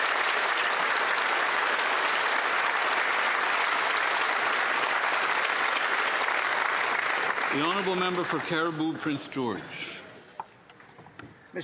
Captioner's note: applause